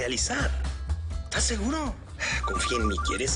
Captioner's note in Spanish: Suena un celular